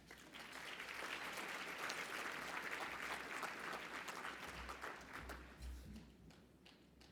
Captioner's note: applause